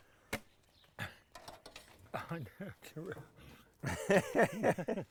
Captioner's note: laughing